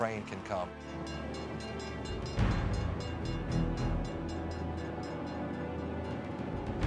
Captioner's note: tense music; train crossing ringing